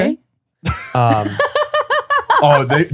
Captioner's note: laughing